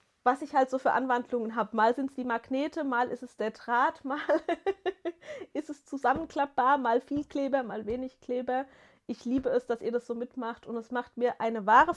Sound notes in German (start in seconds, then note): 4.1 gelächter